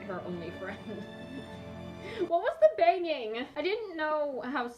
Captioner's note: laughs